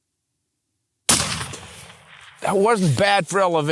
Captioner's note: gunshot